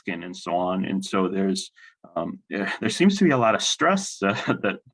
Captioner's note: laughs